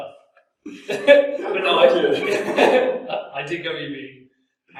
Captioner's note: both laugh